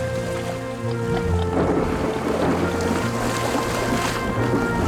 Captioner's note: thunder crashes